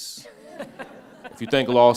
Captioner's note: all laughing